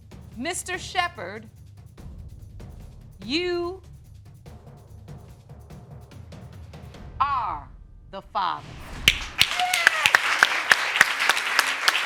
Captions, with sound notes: Mr. Shepard... You... Are the father. (AUDIENCE CLAPPING)